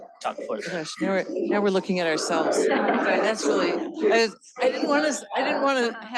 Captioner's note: laughter